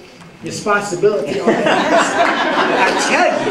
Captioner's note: laughter